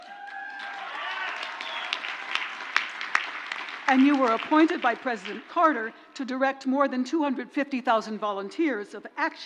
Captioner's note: crowd cheers